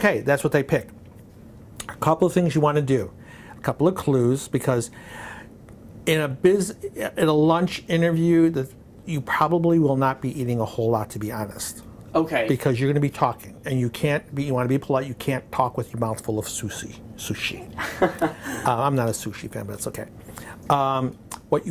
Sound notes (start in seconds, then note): 17.7 laughing